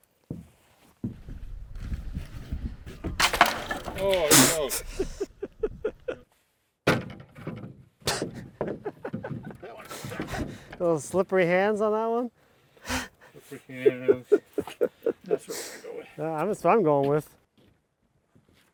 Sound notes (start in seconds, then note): 3.2 wood rattling; 3.9 laughing; 6.9 wood rattling; 8.5 laughing; 13.4 laughing